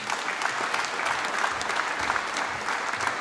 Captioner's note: applause